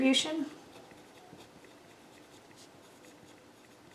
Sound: pen scribbles

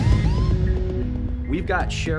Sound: siren pulses

